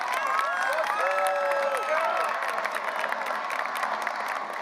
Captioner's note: graduates cheering; audience applauding